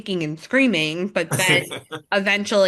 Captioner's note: laughs